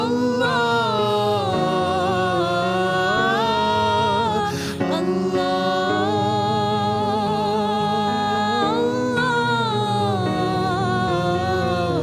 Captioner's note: hum